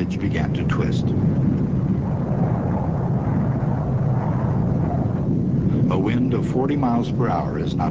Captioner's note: wind blowing